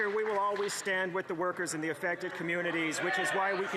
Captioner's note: some Applause